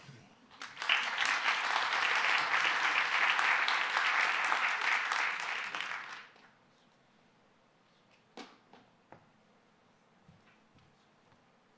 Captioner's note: applause